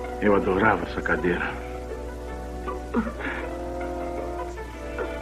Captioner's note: Margaret Crying